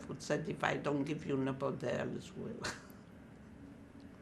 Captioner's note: laughing